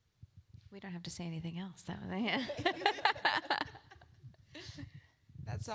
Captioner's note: laugh